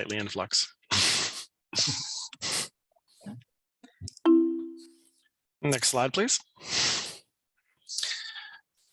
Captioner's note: chuckles